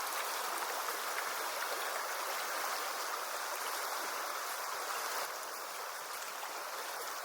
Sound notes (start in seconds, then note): 0.0 water rippling